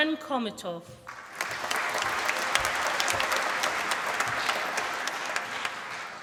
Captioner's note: applause